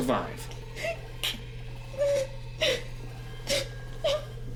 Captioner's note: Lisa sobbing